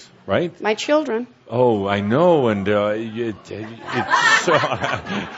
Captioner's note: more laughter